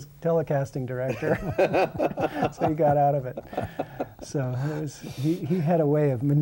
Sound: laughter

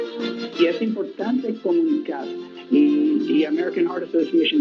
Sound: reporter speaking Spanish

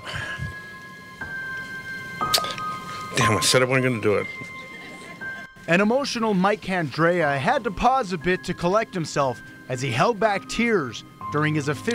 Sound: holds back tears

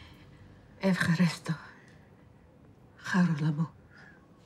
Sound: speaking in Greek

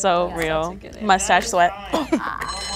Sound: clock ticks

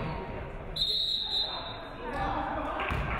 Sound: referee whistles; audience clapping

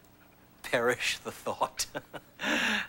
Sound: laughs

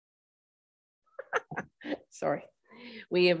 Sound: laugh

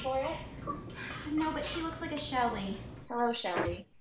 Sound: sighs

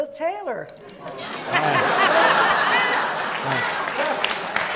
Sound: audience laughs

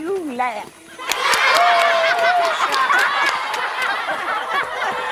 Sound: laughter

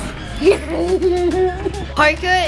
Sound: laughing

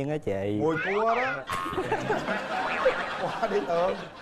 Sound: laughing

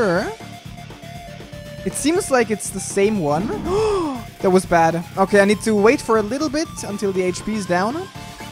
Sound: gasps

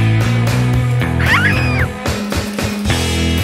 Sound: Penelope Screams

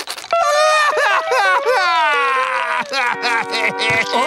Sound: crying

